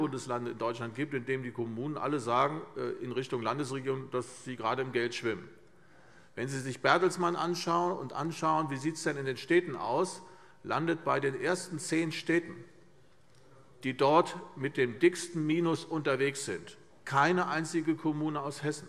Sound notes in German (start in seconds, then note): none